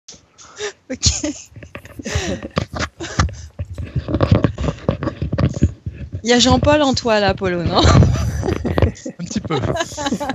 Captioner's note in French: rires